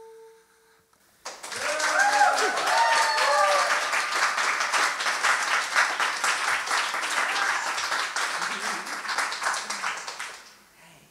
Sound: audience cheering

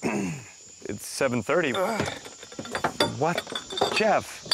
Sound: door opens, bottles fall out

